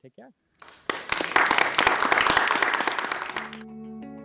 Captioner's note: audience clapping